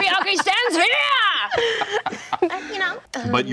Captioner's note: group laughing